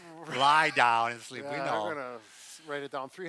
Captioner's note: laughs